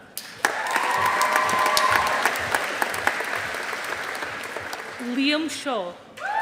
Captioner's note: audience applauding